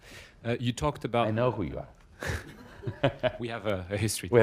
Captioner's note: laughter